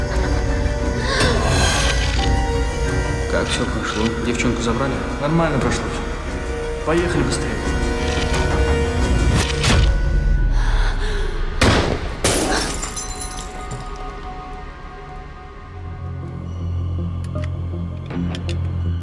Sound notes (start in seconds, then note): 11.6 gunshot